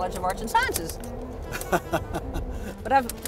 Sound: laughs

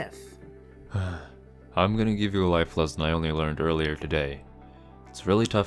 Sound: sigh

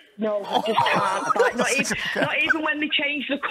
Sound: laughter

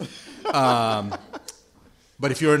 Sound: laughter

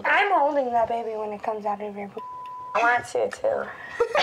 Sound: beep

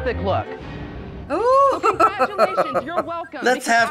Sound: laughing

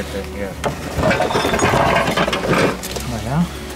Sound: clanging

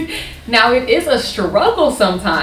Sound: laughing

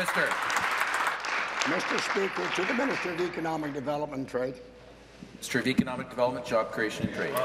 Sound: applause

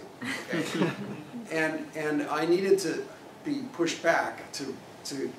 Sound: laugh

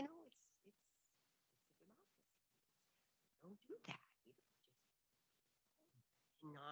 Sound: faintly speaking

